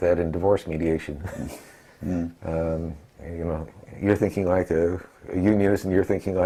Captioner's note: laugh